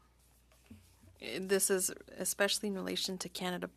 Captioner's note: speaking French